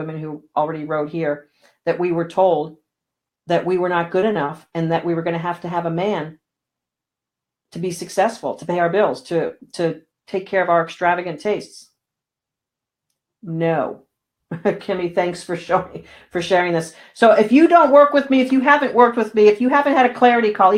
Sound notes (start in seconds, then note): 14.9 laughing